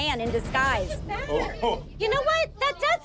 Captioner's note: laughs